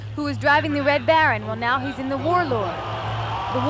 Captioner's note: engine revving